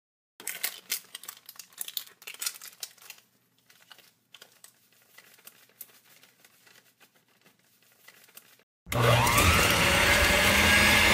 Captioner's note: sound of making coffee